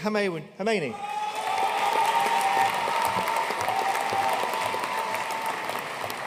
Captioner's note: audience cheering and applauding